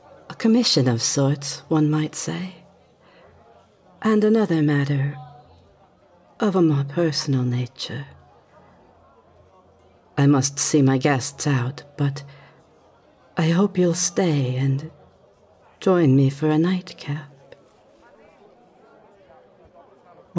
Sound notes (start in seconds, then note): none